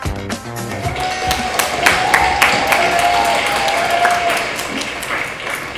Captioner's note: crowd applauds DJ